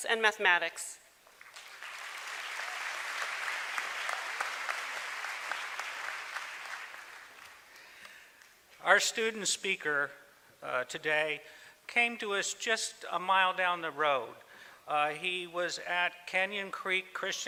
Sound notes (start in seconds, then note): 1.3 applause